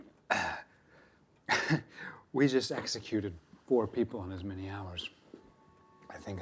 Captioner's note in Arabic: يضحك